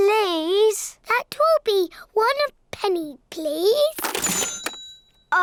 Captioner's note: dings